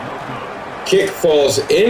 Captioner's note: crowd Noises